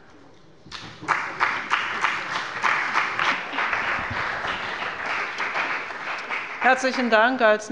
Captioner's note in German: Beifall bei dem BÜNDNIS 90/DIE GRÜNEN und der CDU